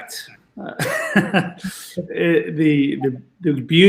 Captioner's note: laughs